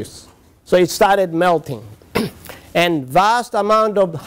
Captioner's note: cough